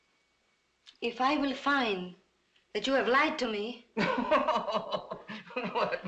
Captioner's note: merritt chuckles